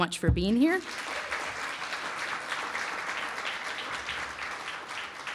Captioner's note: applause